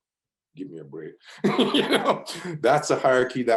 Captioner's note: laughs